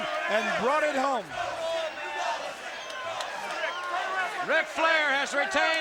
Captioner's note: audience cheering